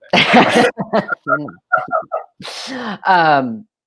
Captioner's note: laughing